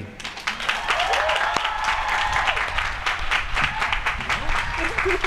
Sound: applause

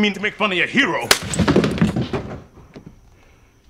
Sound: sound of slap from gloria gaines

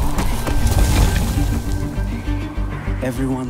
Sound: crash, clattering; whoosh

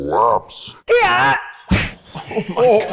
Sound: screams

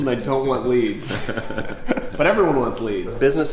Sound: laughs

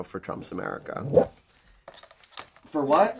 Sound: swoosh sound

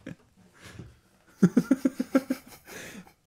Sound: both laugh

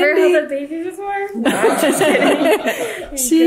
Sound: everyone laughs

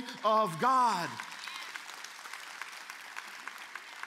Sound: applause

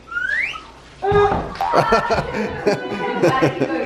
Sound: chuckles

